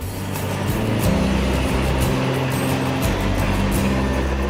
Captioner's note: salt truck vrooms